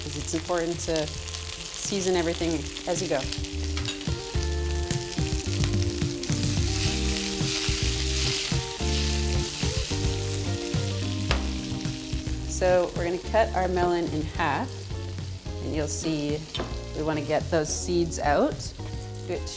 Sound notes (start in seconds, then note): 4.1 bright upbeat music continues; 7.1 pan sizzling continues